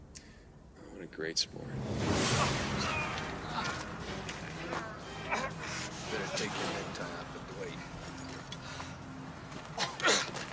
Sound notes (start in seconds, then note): 1.8 man yelling